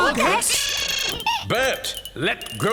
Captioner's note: Boggart noises!